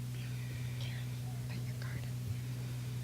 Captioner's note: whispering